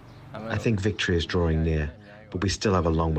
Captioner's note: through translator